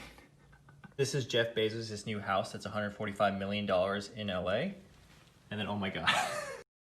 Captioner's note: laughs